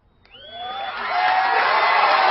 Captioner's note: crowd cheering